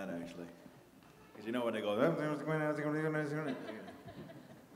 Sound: mimicking an auctioneer

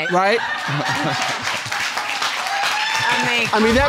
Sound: audience laughing and applauding

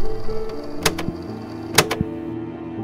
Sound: recorder clicks

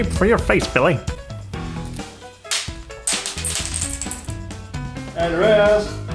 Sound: coins falls onto the floor

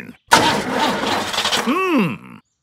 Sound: engine sputtering

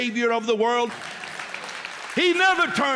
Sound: applause

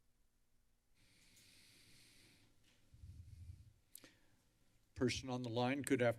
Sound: breathing deeply

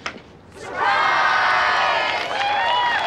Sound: cheering and applause

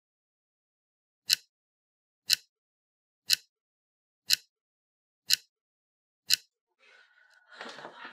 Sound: clock ticking

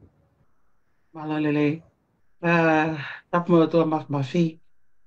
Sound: non-english speech

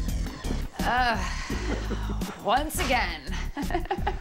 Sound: sighs

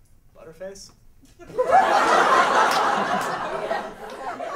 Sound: laughter

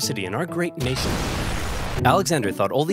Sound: bomb exploding loudly

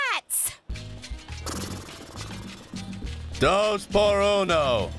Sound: blows raspberry

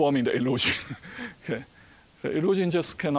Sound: chuckling

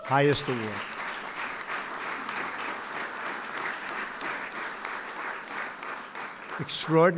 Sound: applause

